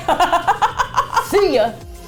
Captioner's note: laughs; deep voice; upbeat Electronic Music